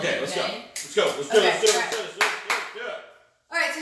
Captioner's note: clapping